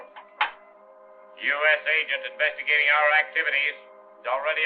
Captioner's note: man on radio